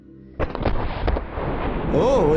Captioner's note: explosion banging